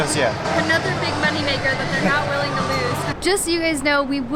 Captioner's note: laughter